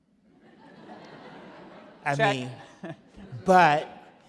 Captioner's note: audience laugh